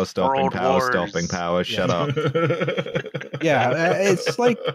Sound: chuckles

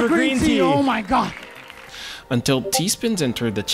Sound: crowd clapping

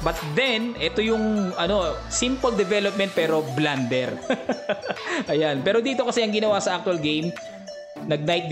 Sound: laughing

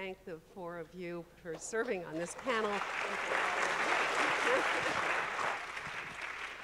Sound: audience applauding

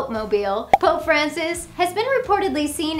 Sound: graphics pop

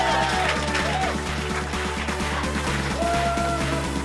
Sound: applause

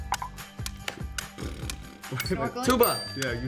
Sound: blowing raspberry

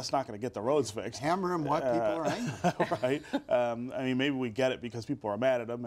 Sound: laughter

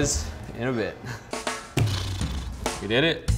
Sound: blowing raspberries

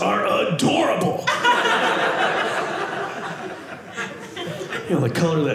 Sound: audience laughing

